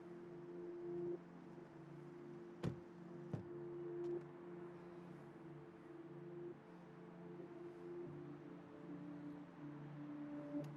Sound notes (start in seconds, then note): 2.6 car doors thudding